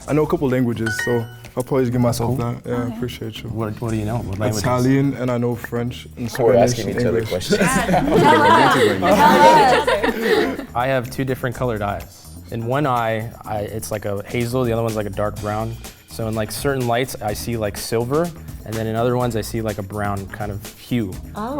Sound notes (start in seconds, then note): 9.4 overlapping chatter